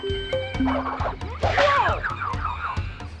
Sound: crash

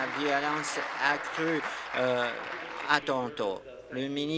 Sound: applause

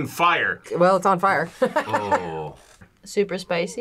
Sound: laughs

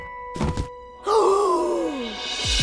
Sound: gasps

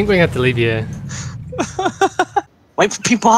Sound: nervous laughter

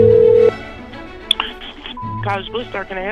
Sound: phone rings; beep

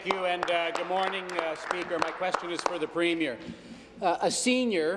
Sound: applause

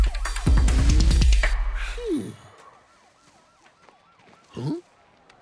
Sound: Scooby sighs

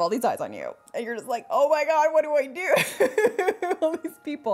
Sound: laughs

